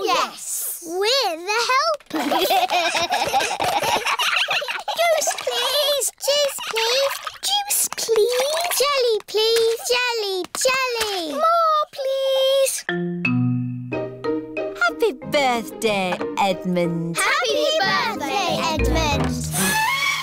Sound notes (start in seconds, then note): 2.1 all giggling